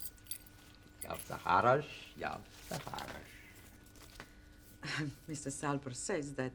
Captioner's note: man speaking unknown foreign language